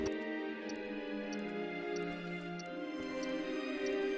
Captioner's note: countdown bleep continues